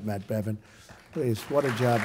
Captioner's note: applause